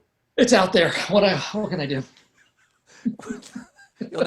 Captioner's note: laughter